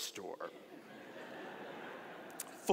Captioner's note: audience laughing